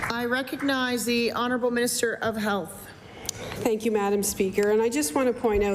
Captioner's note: applause